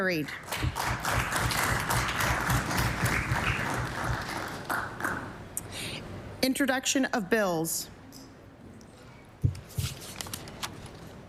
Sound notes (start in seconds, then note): 2.0 applause